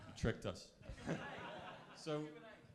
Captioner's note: crowd laughs